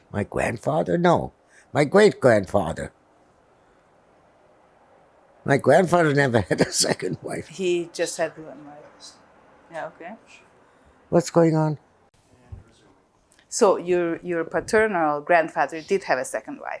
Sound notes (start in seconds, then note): 6.1 laughing; 9.0 whispering